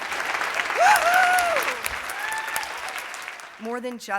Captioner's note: applause